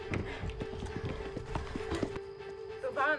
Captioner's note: insects chirping